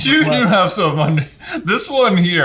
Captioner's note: laughs